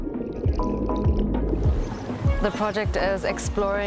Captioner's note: water gurgling